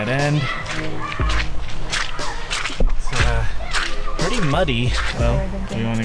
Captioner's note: kids yelling in the background